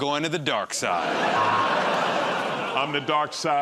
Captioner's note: laughter